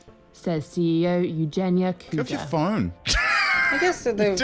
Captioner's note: laughs